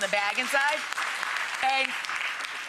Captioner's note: audience applauding